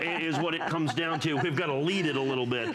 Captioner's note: laughter